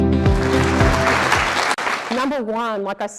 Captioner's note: clapping